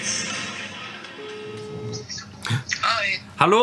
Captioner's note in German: Freizeichen